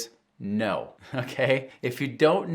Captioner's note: chuckles